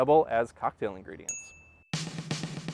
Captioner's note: chime